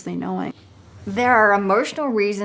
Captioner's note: whooshing